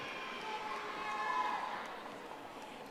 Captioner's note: audience applauding